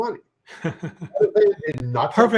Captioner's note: chuckles